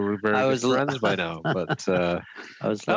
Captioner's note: laughter